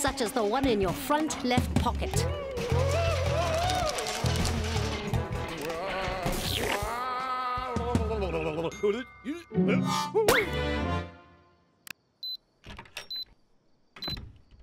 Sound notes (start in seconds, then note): 5.6 ghostly moaning; 8.8 grumbles; 12.2 beeping